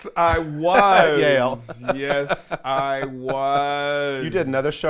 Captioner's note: laughs